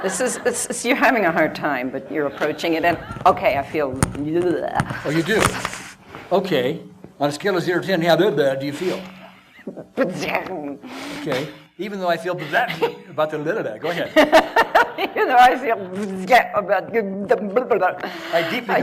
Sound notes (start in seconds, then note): 4.1 speaks gibberish; 5.3 shivers; 8.4 speaks gibberish; 12.3 chuckles; 13.8 laughter